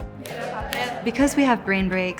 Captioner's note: speaks in Spanish language; students speaking in Spanish language